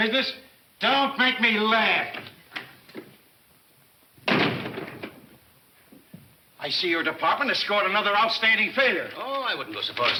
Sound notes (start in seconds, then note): 4.2 door thuds